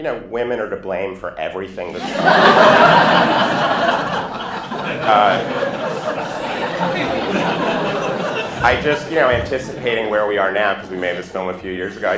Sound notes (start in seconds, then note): 1.9 laughter